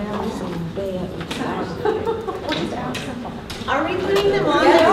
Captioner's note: participants talking at once